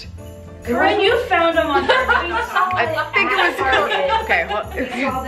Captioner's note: group laughing